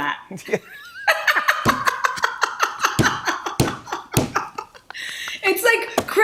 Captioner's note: laughter